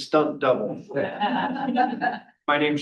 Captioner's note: all chuckling